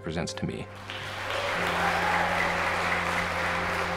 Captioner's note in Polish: oklaski